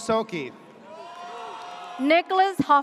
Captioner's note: audience cheers